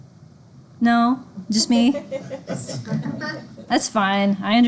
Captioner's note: students laugh